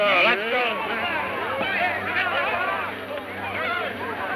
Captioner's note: men shouting